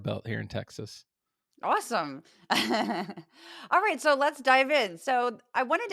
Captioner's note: laugh